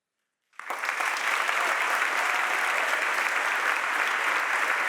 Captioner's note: audience applauding